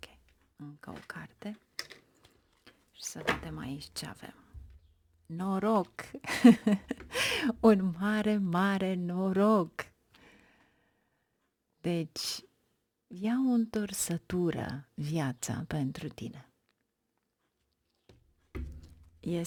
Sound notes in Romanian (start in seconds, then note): 4.3 râsete